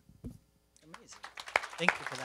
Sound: applause

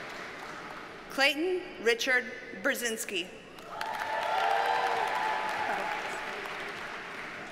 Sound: audience cheers and applauds

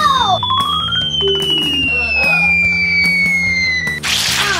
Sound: cartoon falling sound; splatting sound

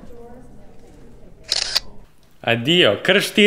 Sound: camera sound

